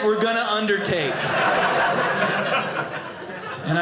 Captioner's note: audience laughing